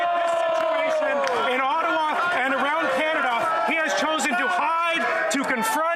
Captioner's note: yelling